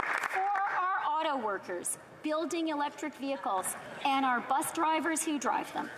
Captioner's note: applause